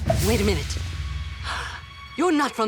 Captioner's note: gasping